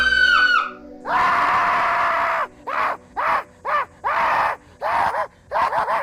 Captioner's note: actor shrieking and yelling